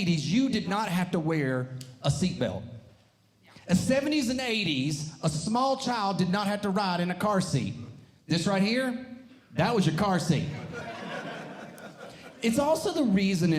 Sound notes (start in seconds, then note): 10.5 audience Laughing